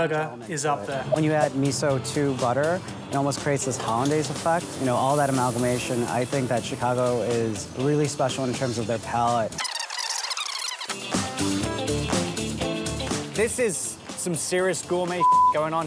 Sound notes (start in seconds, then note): 9.6 squeaking; 10.5 upbeat music; 15.2 beep